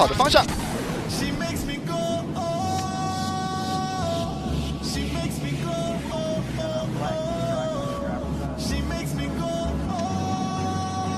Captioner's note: engine revving